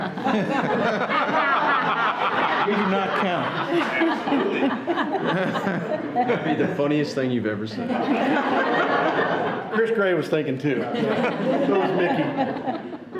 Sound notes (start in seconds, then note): 0.0 people laughing; 7.9 everyone laughing